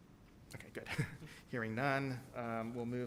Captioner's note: chuckles